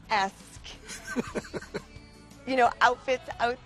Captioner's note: George laughs